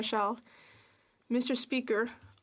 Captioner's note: speaking French